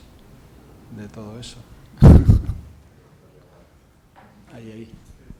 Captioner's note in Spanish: risas